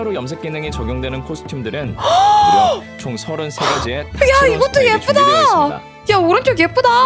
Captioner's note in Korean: 헉 소리